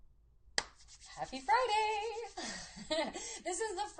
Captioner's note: laughs